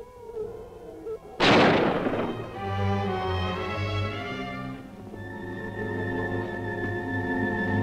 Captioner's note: gun firing; tense music